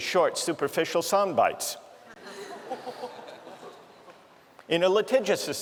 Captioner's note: laughter